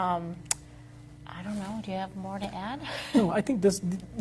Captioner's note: laughs